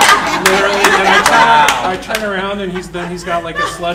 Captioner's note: audience laughing; laughing drowns out speaker